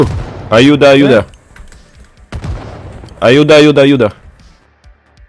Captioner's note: spanish